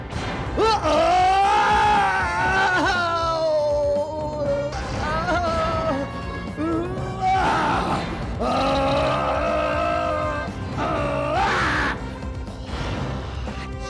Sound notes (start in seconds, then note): 0.6 groans; 7.3 grunts